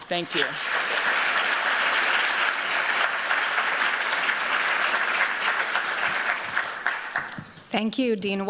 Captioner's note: applause